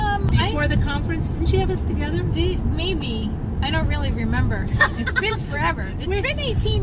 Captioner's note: laughing